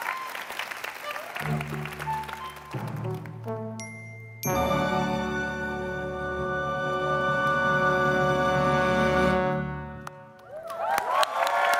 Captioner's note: cheers and Applause